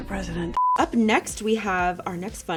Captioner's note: beeping